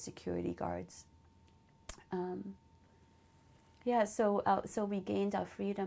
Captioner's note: pauses for 3 seconds